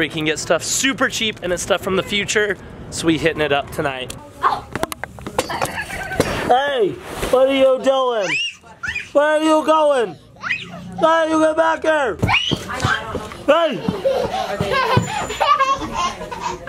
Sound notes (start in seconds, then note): 8.1 child screams; 10.4 child screams; 13.6 child laughs